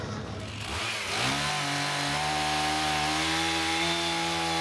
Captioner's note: chainsaw buzzing